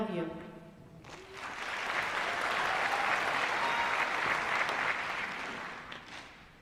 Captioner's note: applause